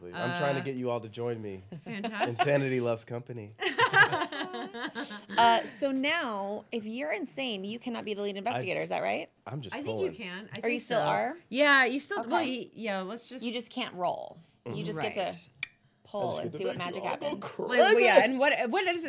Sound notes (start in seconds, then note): 3.6 laughing